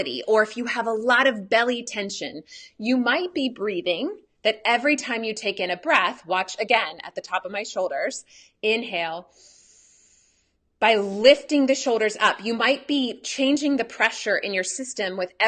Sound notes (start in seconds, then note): 9.3 breathes in